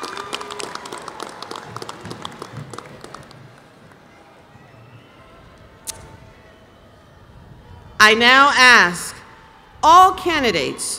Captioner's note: applause